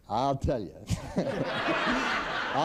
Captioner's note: laughter